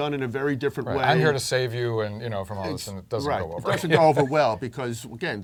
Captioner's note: laugh